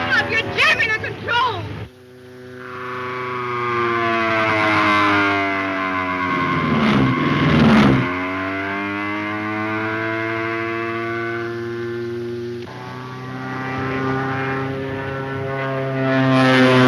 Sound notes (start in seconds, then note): 3.1 plane engine roars